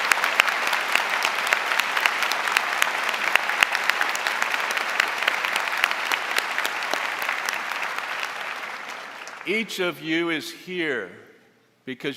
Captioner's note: applause